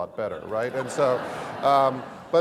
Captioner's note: laugh